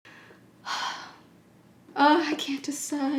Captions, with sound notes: (Sighs) Ugh, I can't decide.